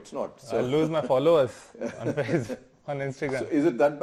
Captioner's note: laughing